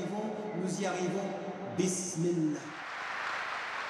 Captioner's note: applause